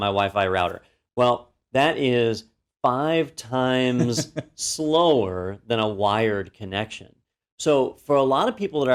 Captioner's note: laugh